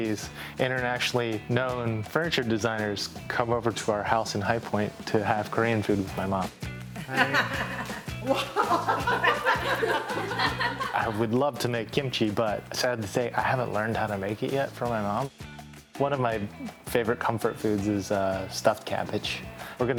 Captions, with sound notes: these internationally known furniture designers come over to our house in High Point to have Korean food with my mom. [Mom laughing] I would love to make kimchi, but sad to say, I haven't learned how to make it yet from my mom. One of my favorite comfort foods is stuffed cabbage.